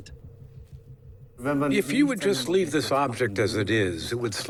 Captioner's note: in German